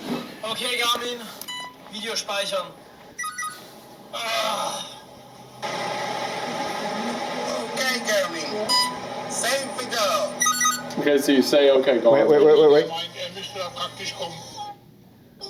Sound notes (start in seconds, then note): 13.1 indistinct chatter continues